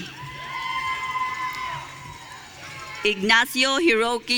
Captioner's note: audience cheering